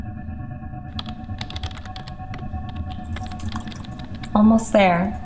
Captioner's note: keyboard clacking